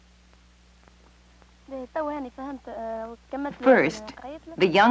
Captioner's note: speaking Arabic